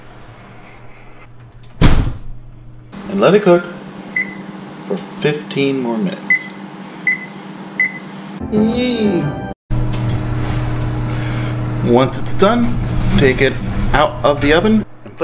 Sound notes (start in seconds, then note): 7.8 beeping